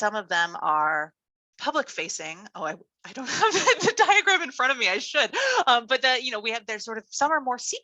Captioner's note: laughs